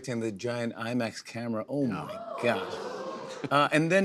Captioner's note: audience gasps